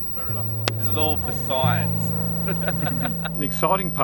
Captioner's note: laughs